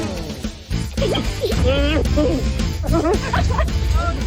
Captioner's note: mumbles; laughs